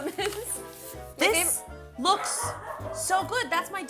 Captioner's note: laughs; dog barking